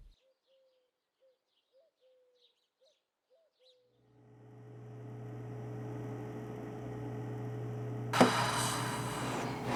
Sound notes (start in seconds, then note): 7.7 sighs